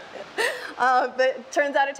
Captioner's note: laughs